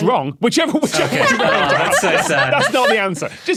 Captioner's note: group laughing